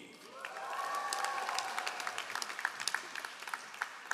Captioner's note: all applauding